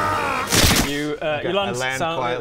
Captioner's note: splat